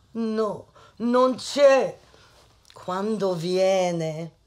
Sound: speaks foreign language

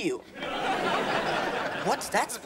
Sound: laughing

